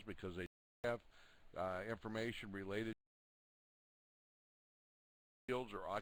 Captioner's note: audio drops